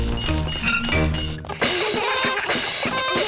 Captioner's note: items clinking; all laugh